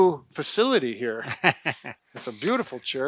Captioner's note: laughs